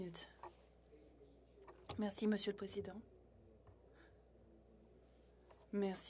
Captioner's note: speaking French